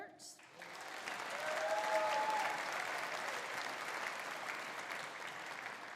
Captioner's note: audience applauding; audience cheering